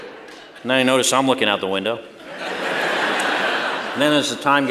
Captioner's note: laughter; laughter